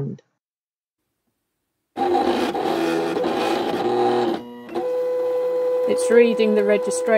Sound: intermittent machine noise

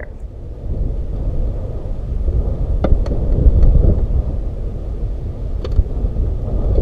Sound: wind and fire howling

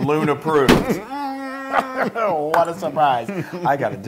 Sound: laugh

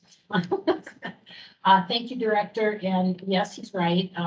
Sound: chuckles

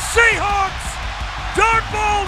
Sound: crowd cheering

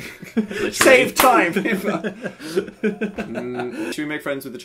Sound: laughs; claps; laugh

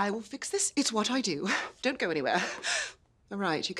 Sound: chuckles

